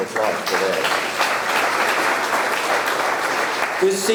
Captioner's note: audience clapping